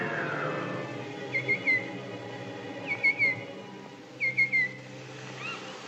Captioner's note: A Bird Chirps